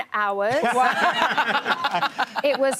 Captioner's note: laughing